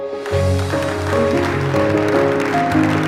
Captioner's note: applause